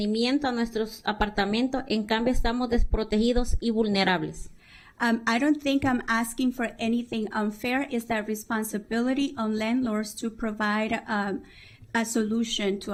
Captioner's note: speaking spanish